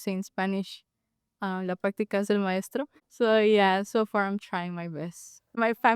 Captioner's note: speaking Spanish: La práctica hace al maestro